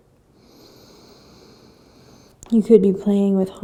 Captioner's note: inhaling